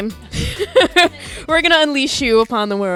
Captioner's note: laughing